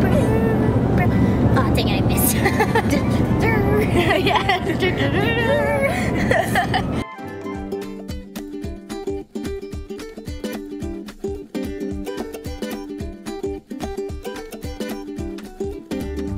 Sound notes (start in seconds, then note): 1.9 laughing; 8.0 upbeat music